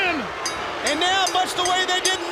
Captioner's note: bell ringing